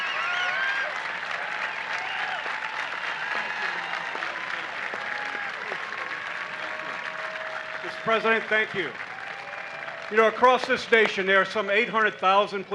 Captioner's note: applause